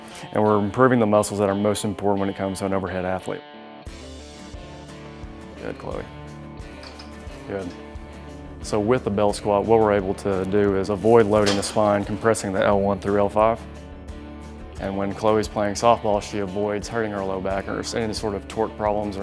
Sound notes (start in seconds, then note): none